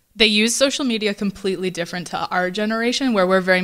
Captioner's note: none